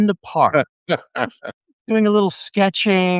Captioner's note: laughing